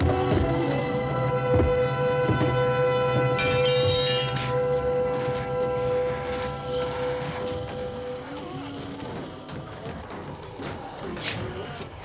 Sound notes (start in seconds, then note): 3.1 metal clanging; 8.4 ghouls groaning